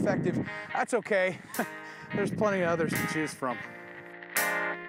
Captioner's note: chuckling